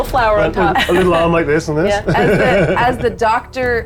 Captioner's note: chuckles